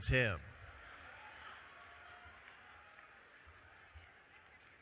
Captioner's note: audience cheering